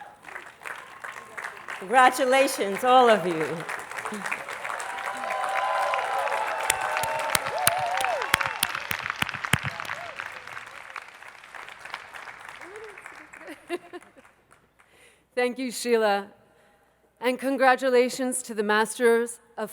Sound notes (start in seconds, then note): 1.3 attendees clapping; 5.2 attendees applauding